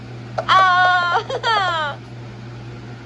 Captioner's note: Tomoko cheers